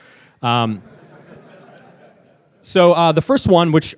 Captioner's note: laughing